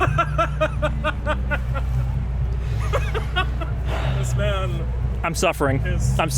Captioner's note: laughs